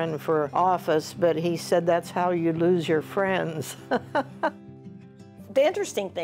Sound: laughs

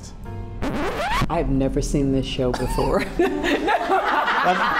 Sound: laughter

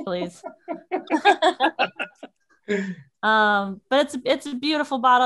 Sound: all laugh

